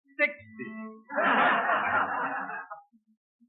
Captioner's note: soldiers laugh